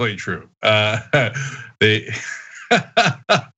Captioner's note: laugh